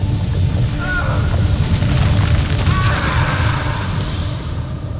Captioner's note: screams